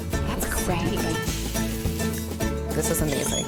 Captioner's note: frying pan sizzles